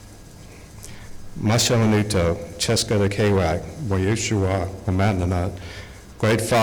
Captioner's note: speaking Algonquian